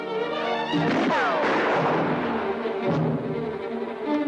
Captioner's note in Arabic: إطلاق النار بالبنادق